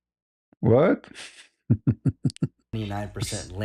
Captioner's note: ketawa